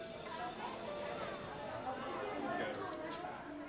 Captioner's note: children's voices